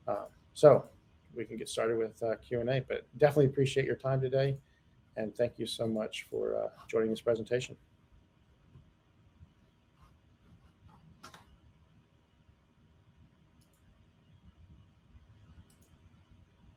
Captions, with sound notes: So we can get started with a Q&A, but definitely appreciate your time today. And thank you so much for joining this presentation. (mouse clicking)